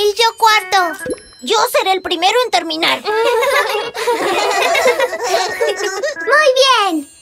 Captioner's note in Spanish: Risas